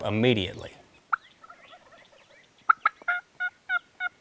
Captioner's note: turkey calling